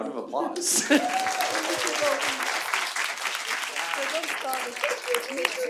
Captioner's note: audience applauding